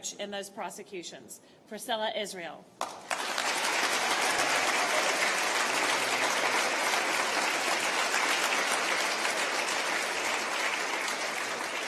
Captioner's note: applause